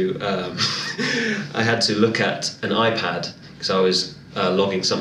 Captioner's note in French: rire